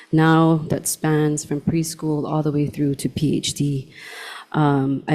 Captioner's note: none